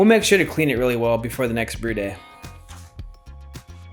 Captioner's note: none